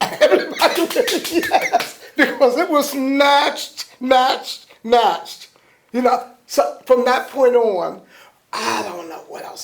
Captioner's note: claps